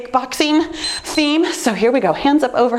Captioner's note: timer beeps